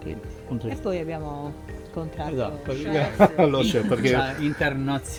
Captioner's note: laughs